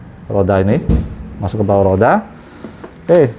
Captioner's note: vacuum noise